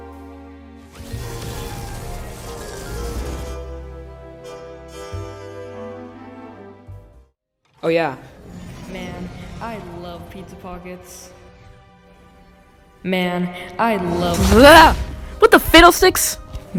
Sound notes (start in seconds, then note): 1.2 portal noise plays as Portal Opens